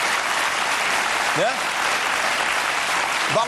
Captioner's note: massive applause